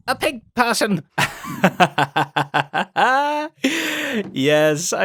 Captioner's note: laughs